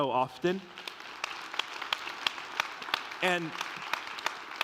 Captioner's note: congregación aplaudiendo